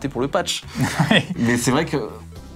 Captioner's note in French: rire